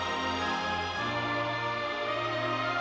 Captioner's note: none